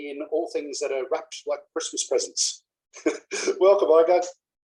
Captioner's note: laugh